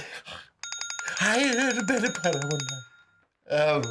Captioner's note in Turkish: Telefon zili sesi